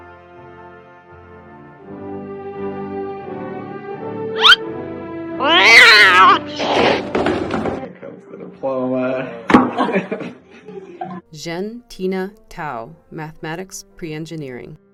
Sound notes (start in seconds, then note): 4.4 shoes squeak; 5.4 screaming out sound